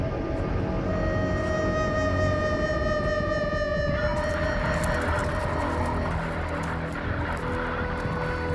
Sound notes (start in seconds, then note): 4.1 crunch of grass